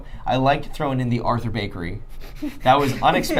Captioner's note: laughing